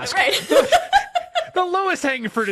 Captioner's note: laughs